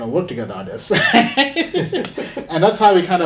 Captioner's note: laughing